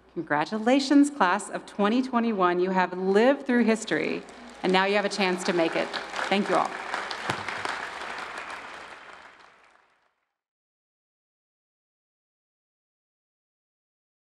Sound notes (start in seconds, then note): 7.7 audience applauding